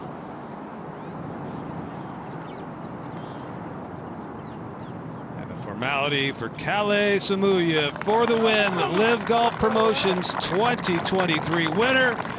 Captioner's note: applause